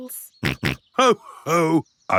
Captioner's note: snorts